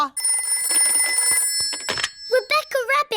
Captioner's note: phone rings